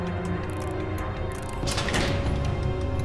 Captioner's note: door opens